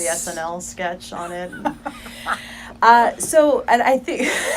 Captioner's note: laughing